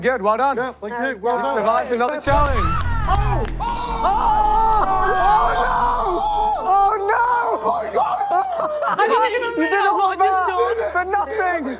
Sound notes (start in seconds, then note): 2.4 screaming; 4.0 yelling; 7.7 laughing